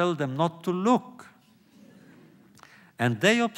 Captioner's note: laughter